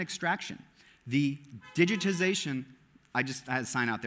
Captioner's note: car honking